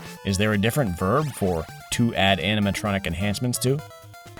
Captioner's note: none